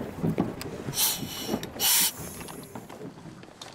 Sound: air hisses

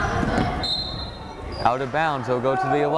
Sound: whistle blows

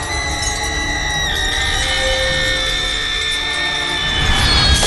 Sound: screams

